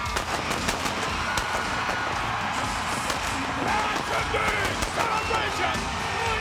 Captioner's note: pyro blasting; audience cheering